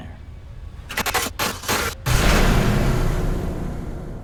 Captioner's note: static hiss